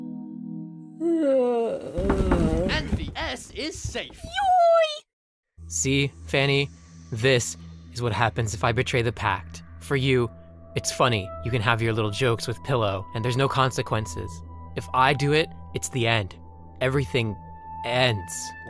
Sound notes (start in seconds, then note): 1.0 yawn